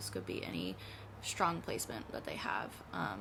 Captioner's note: none